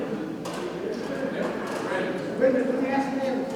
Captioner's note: attendees chattering